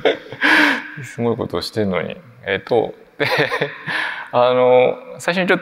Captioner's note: laughs; laughs